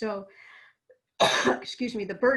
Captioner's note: coughs